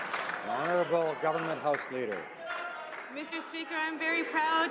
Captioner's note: cheering/Applause